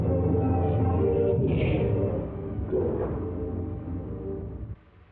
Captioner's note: gunfire blasting